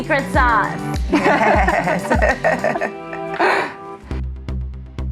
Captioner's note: all laughing; upbeat music